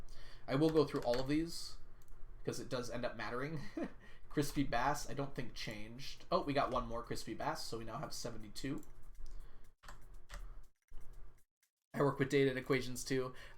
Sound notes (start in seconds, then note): 3.5 laughs